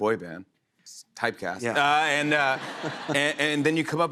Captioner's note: laughter